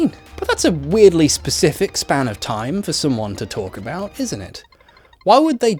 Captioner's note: normal voice